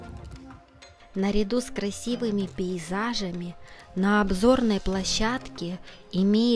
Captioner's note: voiceover